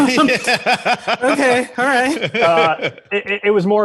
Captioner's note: laughing; all laughing